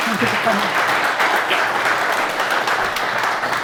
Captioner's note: applause